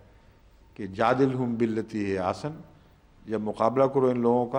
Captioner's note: Arabic